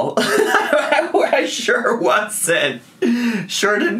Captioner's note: laughs